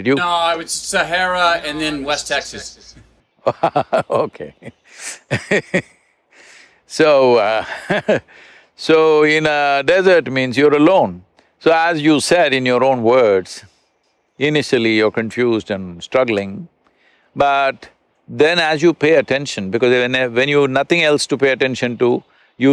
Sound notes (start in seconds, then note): 3.4 Sadhguru laughs; 3.4 laughs